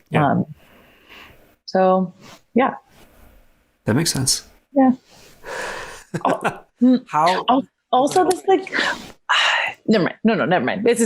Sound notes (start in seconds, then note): 6.0 laughs